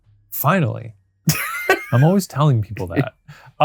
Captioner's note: laughing